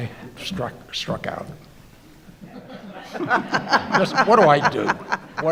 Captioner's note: crowd laughing